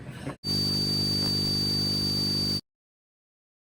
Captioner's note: high-pitched buzzing